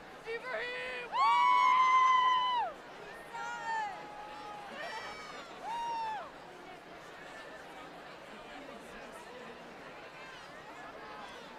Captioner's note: applause